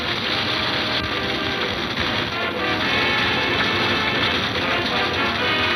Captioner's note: fire crackling; suspenseful music